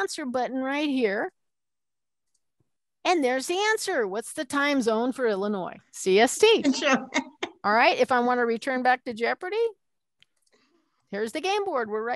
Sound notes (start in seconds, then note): 6.7 laughter